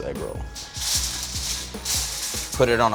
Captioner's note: aluminum foil crinkling